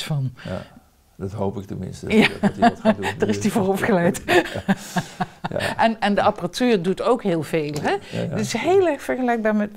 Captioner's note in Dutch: Lacht